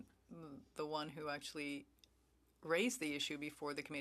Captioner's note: speaking French